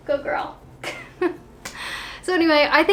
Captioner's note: chuckling